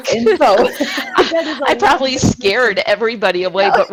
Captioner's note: laughing together